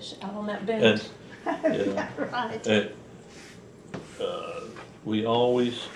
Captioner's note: laughs